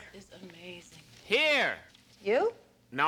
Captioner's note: radio